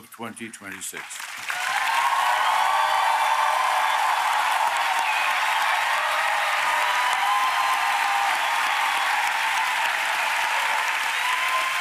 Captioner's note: applause